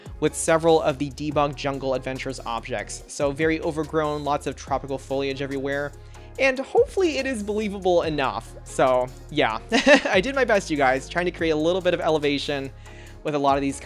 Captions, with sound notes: with several of the debug Jungle Adventure objects, so very overgrown - lots of tropical foliage everywhere and hopefully it is believable enough. So, yeah! (Laughs) I did my best you guys, trying to create a little bit of elevation with a lot of these